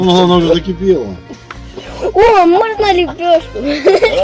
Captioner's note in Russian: Смех